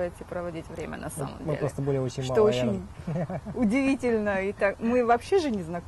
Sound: laughs

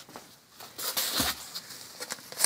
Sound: rustling

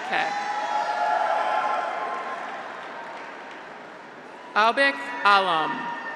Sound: graduates cheer; audience applauds

